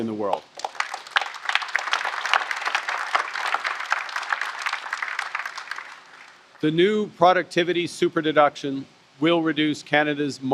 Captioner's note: applause